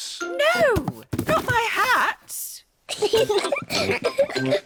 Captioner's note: peppa and george giggle